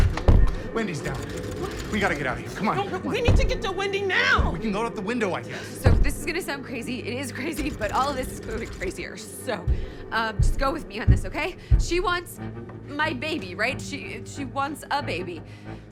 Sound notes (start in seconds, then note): 0.0 handle rattling